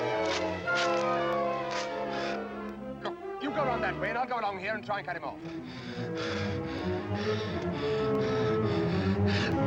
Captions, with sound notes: You go around that way and I'll go along here and try and cut him off. (panting)